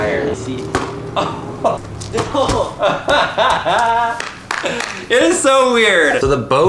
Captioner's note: laughing